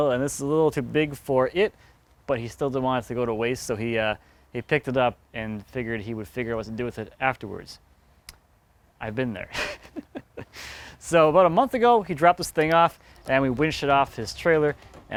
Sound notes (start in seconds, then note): 9.5 laughs